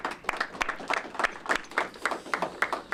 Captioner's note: applause